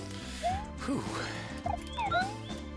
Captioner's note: breathing